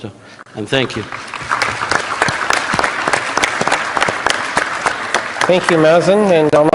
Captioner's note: applause